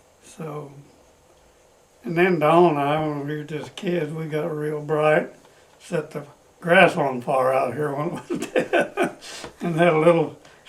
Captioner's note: laughs